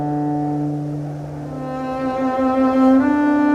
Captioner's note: dramatic music; wind